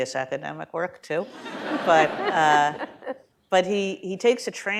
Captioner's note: laughter